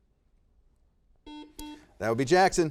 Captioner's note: buzzer beeping